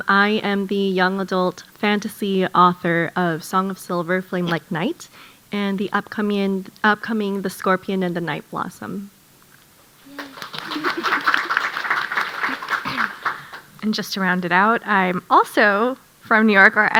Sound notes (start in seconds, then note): 10.0 audience applauding